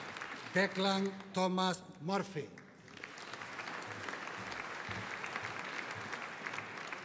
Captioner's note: audience applauding